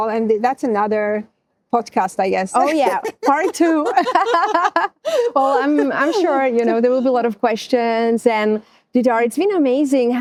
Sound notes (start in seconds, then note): 5.2 laughing